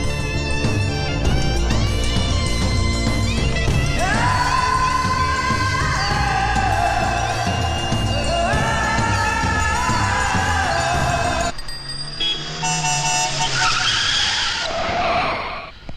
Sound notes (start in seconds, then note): 12.0 horn Honking